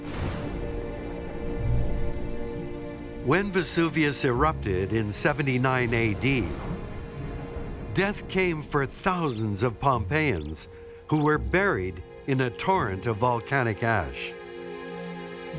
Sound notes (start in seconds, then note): 6.4 thunder rolls